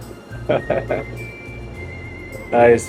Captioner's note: laughing